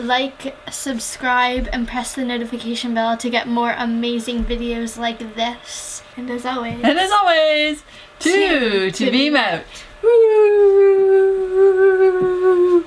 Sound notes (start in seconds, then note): 10.0 whoooo